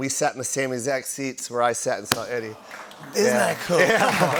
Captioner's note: audience "Awws"